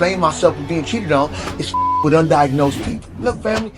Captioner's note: beep